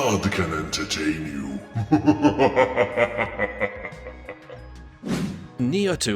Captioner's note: laughs in demon